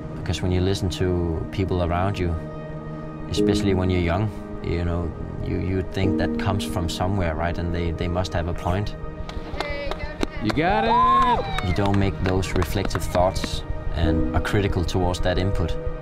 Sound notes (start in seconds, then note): 10.4 team cheering